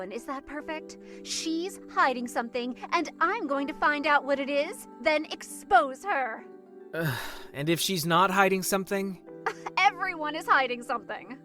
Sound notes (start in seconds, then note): 6.9 sighs